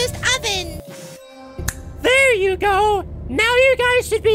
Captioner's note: snap